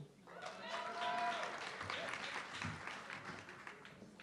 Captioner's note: audience clapping